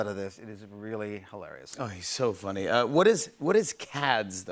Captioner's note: none